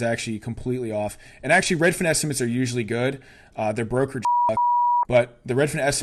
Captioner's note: beep